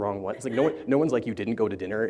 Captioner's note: laughter